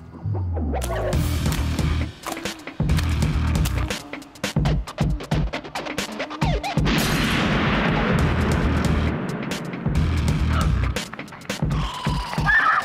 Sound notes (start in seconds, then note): 2.3 moaning; 6.8 gunshot; 11.7 screaming